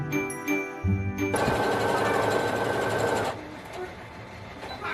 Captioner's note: machine chugging